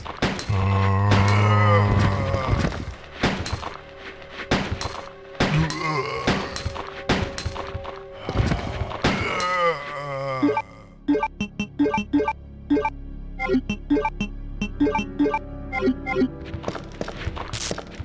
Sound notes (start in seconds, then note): 4.5 gunshots